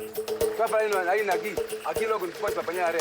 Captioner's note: Portuguese spoken audio